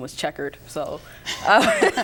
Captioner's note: laughter